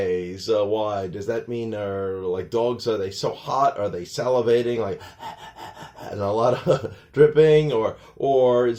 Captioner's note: dog breathing noises